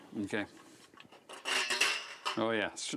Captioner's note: metallic creaking